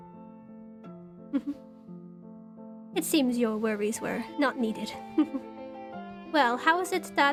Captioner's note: chuckles